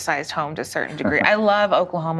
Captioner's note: laugh